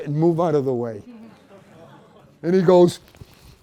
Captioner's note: laughter